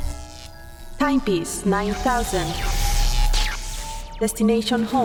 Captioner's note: robot voice